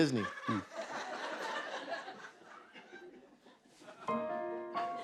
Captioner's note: laughter